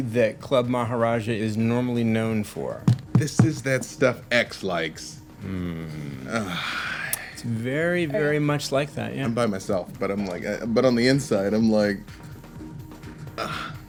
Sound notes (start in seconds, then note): 5.4 sighs; 13.3 sighs